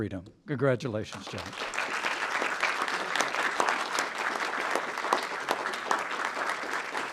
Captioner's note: applause